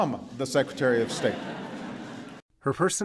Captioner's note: laughter